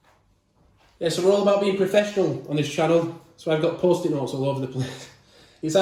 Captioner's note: laughing